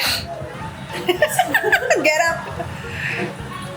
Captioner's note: laughs